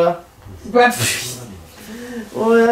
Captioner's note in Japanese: 目薬を吹き出す音